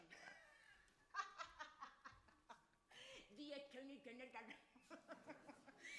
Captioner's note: laughs